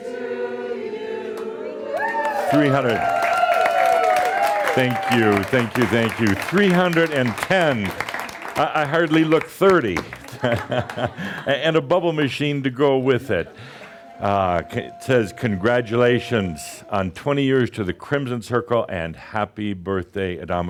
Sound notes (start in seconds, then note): 2.1 audience cheers and applause, as a cake is rolled out; 10.3 chuckles